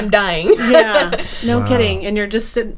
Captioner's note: laughing